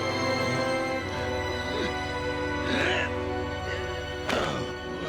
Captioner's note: groaning